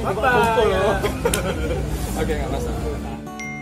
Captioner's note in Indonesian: laugh